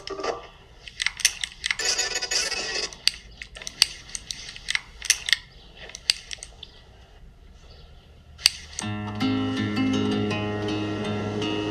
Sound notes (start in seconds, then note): 0.8 keys clicking; 8.8 calm music